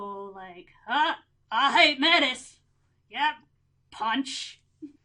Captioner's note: bad hillbilly accent